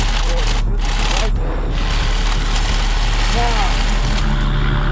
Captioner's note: saw cuts